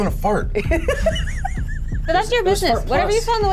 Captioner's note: laughs